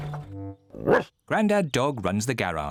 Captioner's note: barks